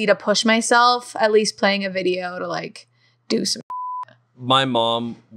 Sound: beep

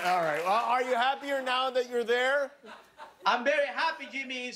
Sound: laughter

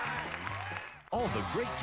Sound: audience applauding

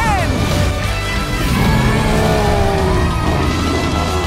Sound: roaring

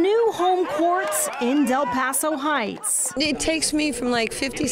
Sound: applause

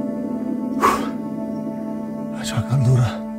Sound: deep breath

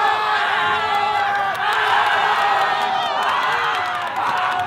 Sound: cheering

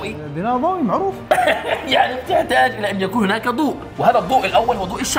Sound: laughing

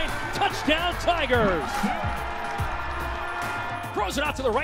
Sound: cheering

